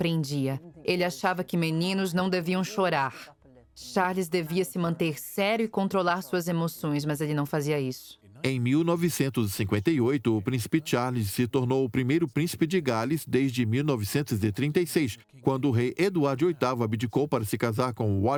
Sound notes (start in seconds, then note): 8.1 voiceover